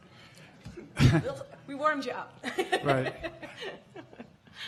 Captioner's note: chuckles